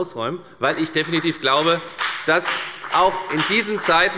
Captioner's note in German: Beifall bei der FDP